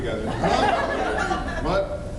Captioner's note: laughs